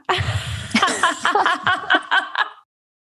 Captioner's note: laughter